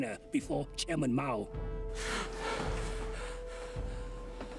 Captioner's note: gasping